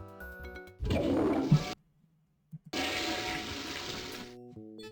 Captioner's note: toilet flushes